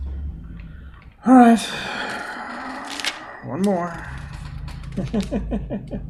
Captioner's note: sighing; chuckles